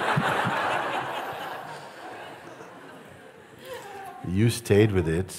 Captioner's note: Lachen